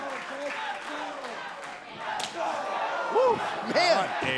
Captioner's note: crowd cheering